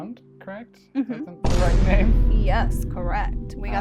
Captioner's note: laughs; Comedic Vine boom sound effect